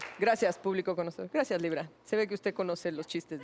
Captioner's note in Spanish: Chifla